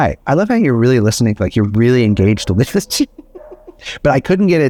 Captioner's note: laughs